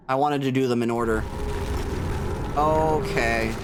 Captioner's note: rumbling; distant visceral howl